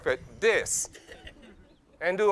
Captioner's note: laughs